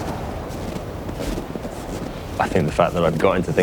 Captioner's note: snow crunching underfoot